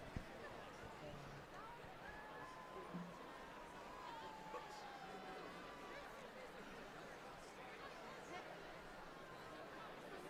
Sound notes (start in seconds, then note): 2.0 applause